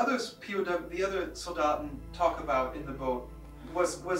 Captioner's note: speaking in German